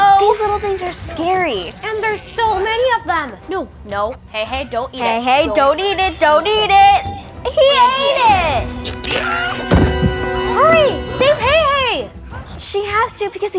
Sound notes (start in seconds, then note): 9.6 loud thud